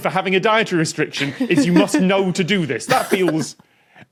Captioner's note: giggles